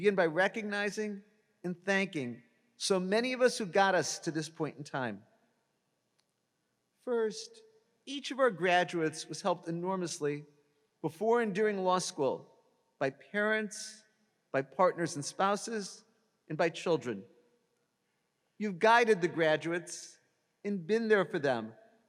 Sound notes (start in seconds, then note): none